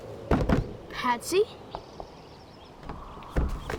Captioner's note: knocking